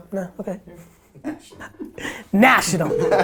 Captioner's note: laughs; group laughter